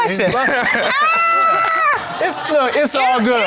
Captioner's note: exclaiming